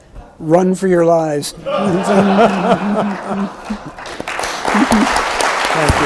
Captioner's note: everyone laughs; audience applauds